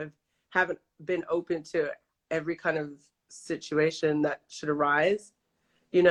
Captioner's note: none